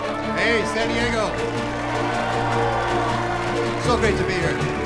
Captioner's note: crowd cheers